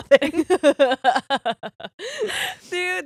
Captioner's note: all laughing